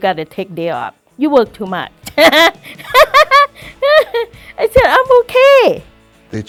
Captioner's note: laughs